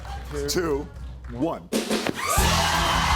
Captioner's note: cheers and applause